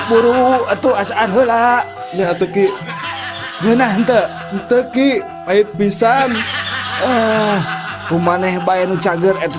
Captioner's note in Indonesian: tertawa